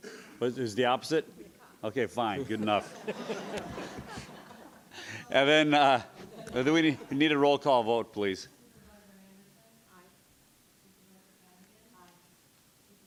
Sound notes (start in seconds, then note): 2.4 laughing